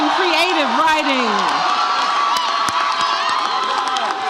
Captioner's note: audience cheers